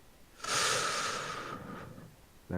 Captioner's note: inhale